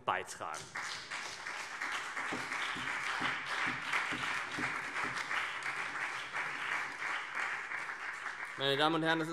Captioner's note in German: Beifall CDU, BÜNDNIS 90/DIE GRÜNEN, SPD und Freie Demokraten